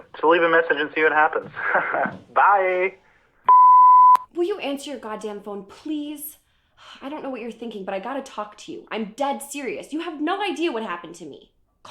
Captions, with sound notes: So leave a message and see what happens. (laughs) Bye. (phone beeps) Will you answer your goddamn phone, please? I don't know what you're thinking, but I gotta talk to you. I'm dead serious. You have no idea what happened to me.